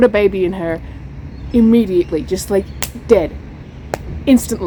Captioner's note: smacks hand